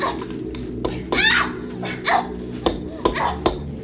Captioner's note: hammering; Ashley screaming